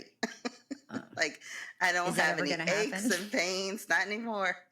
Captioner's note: laughs